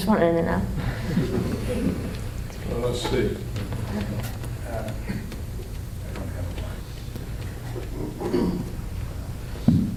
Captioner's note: laughter